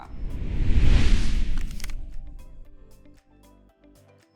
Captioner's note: question whooshes